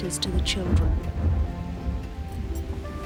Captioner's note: thunder rumbles